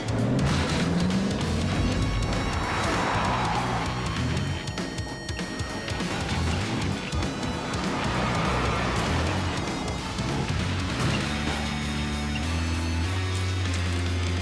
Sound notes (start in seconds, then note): 0.4 cars clank; 3.6 brakes screech; 11.0 dramatic rock music